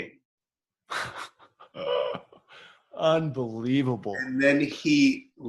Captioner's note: laughs